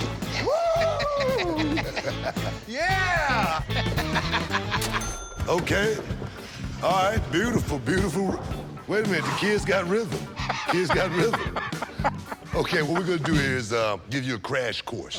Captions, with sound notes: - Woo! Yeah! [laughter] - Okay. All right. Beautiful. Beautiful. Wait a minute. The kid's got rhythm. The kid's got rhythm. - [laughs] - Okay, what we're going to do is give you a crash course.